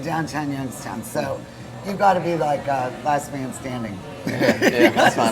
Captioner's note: laughing